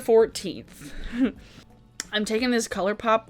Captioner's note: laughing